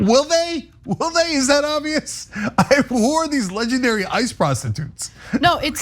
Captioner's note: laugh